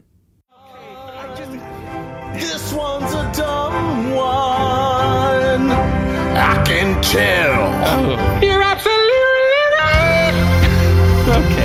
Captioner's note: autotuned